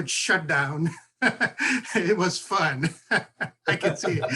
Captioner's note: laugh